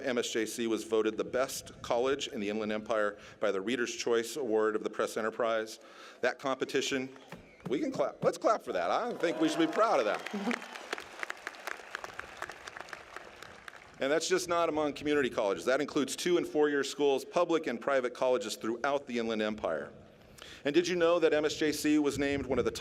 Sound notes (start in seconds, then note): 12.9 applause